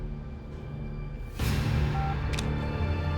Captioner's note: beeps